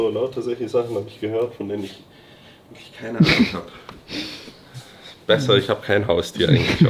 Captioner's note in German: schnauben